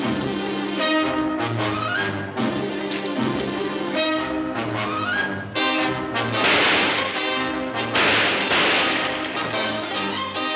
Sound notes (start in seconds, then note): 6.4 gunshots banging